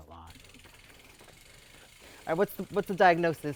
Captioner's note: bicycle wheel spinning